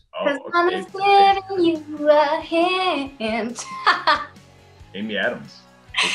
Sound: laughs

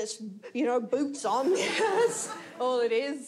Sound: audience laughs

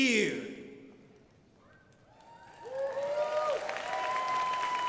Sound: crowd applauding

